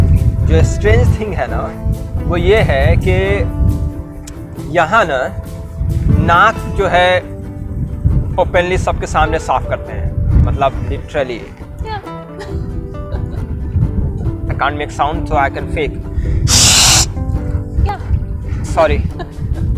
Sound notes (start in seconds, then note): 16.4 chhssssss; 18.9 both laughs